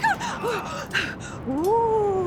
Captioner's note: excited breathing